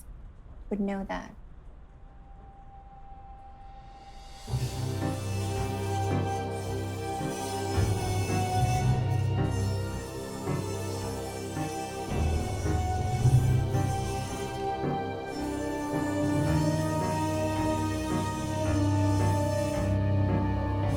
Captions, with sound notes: would know that. (eerie music) (metal screeches)